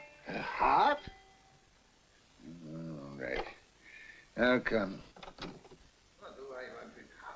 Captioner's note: none